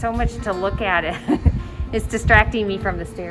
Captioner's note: laughs